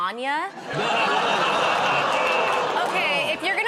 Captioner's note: laughter